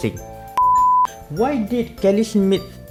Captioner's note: beep